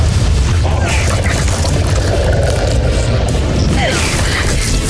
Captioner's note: guttural roar; grunts